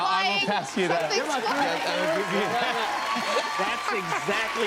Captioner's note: cheers and applause